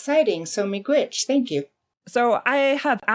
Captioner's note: speaks in foreign language